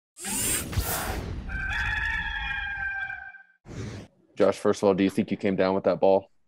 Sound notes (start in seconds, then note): 1.4 rooster crowing